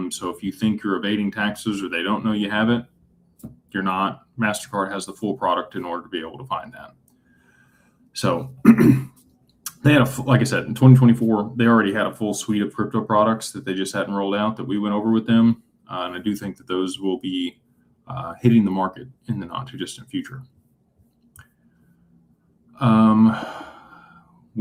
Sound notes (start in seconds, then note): 8.6 clears throat